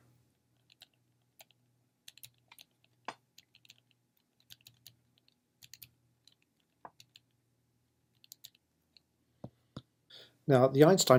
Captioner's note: typing